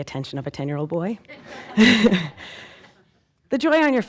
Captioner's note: audience laughing